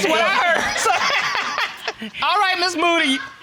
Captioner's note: laughing